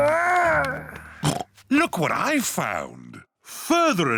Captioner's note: oinks